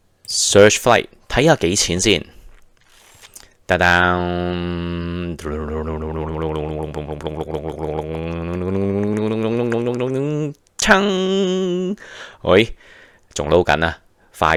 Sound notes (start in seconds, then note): 2.3 humming